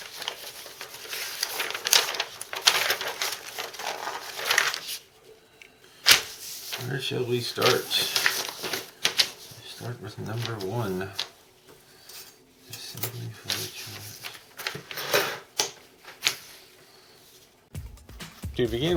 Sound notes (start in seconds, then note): 0.0 paper rustling